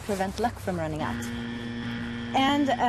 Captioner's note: buzzer sound